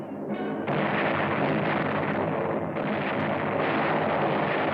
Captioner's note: explosions